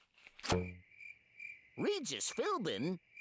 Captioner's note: crickets chirping